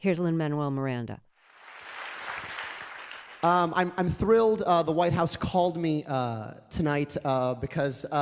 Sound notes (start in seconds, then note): 1.2 soundbite of archived recording